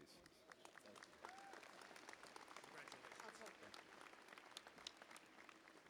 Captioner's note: applause